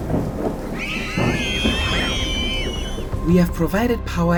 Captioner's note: children scream